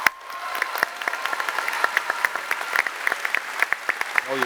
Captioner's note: applause